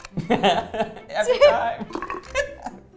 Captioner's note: laughs